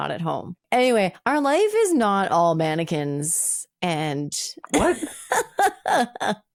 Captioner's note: laughing